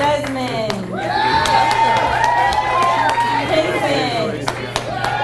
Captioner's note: audience cheers and applauds